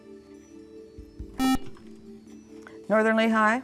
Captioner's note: buzzer